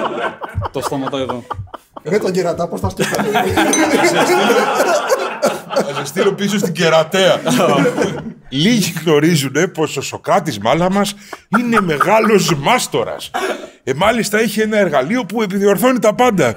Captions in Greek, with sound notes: Το στόμα το είδω. Ρε τον κερατά πώς τα σκέφτεται. (γέλια) Θα σε στείλω πίσω στην Κερατέα. Λίγοι γνωρίζουν πως ο Σωκράτης Μάλαμας είναι μεγάλος μάστορας. Μάλιστα έχει ένα εργαλείο που επιδιορθώνει τα πάντα.